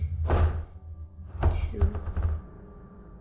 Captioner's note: light sphere thudding